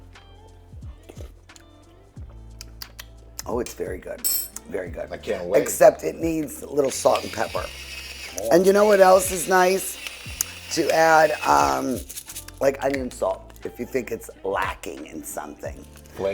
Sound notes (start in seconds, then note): 2.4 lips smacking